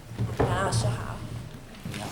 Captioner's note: Mandarin